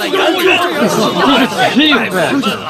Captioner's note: wild dogs barking